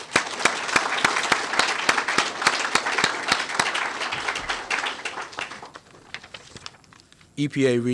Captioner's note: applause